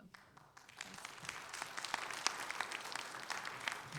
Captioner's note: crowd applauding